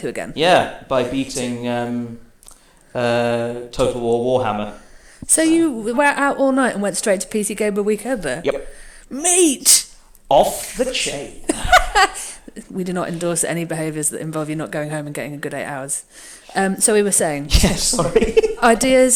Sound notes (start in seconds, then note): 10.8 laughs; 17.4 laughs